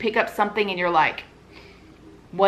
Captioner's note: sniff